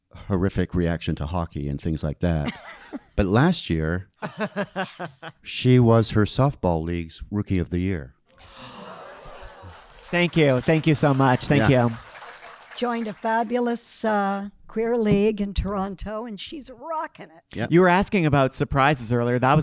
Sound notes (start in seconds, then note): 2.4 laughing; 4.2 laughing; 8.4 audience gasping; 11.9 audience clapping